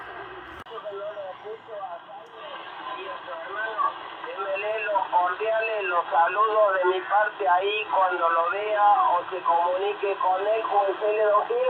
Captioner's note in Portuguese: radio falando espanhol